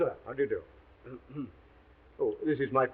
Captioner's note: Watson coughs